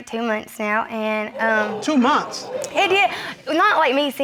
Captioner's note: crowd gasping